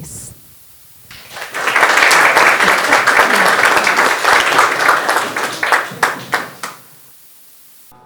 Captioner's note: applause